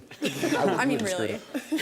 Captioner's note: laughter